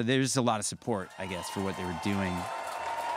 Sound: audience cheering

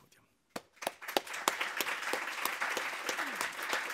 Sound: applause

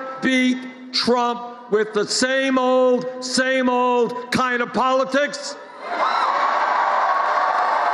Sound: applause

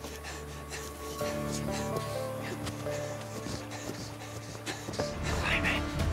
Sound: jim panting

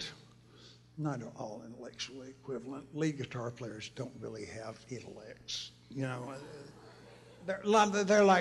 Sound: laughter

